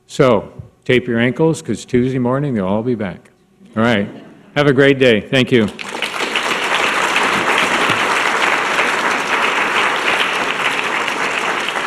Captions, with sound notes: So, tape your ankles cuz Tuesday morning they'll all be back. Alright, have a great day, thank you! (audience clapping)